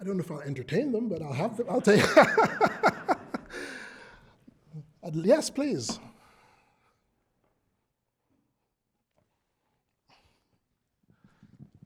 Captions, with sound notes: >> I don't know if I'll entertain them, but I'll have them. [LAUGH] Yes, please.